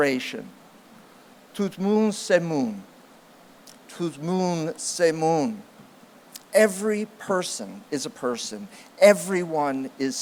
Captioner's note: non-english speech